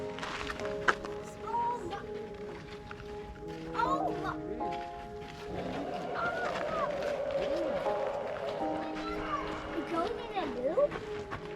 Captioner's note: children chattering